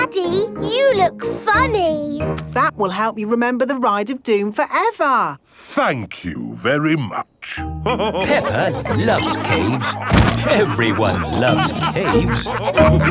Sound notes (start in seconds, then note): 8.0 all laughing